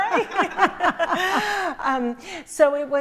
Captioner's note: laughter